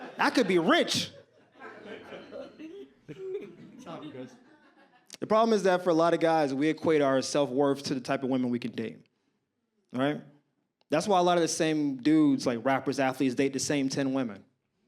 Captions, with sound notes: I could be rich. (audience laughs) the problem is that for a lot of guys we equate our self worth to the type of women we can date alright? that's why a lot of the same dudes like rappers, athletes date the same 10 women.